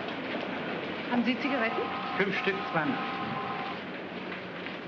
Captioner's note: speaking in German